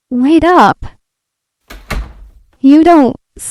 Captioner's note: door closes